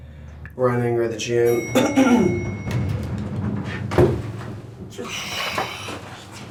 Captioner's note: coughing; breathing